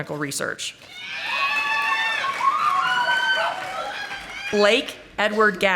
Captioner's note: audience applauding